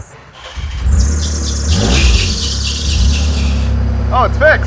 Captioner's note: engine starts